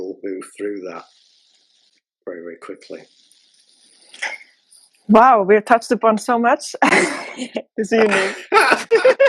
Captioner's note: laughter